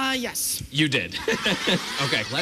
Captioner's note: laughs